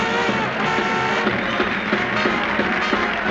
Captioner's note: audience all applauding